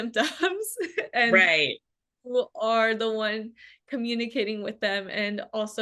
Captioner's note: laughs